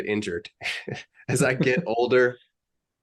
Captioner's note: chuckles